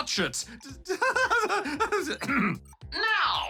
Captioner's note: laughs nervously